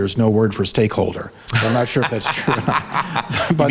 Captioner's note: laughs